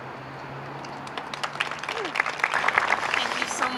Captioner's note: audience applauds